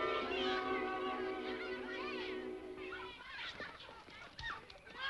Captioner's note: children chattering playfully